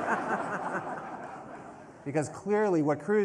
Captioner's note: laughter